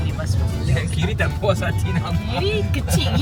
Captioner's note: laugh